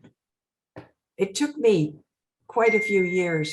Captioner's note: bell dinging